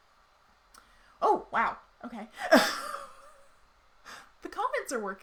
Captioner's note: laughs loudly